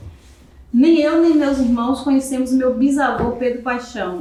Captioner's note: speaking portuguese